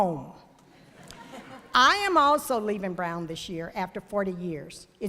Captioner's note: laughter